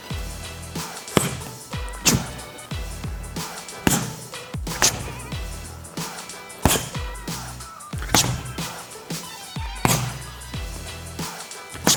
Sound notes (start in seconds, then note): 1.0 breathing and punching; 4.5 upbeat music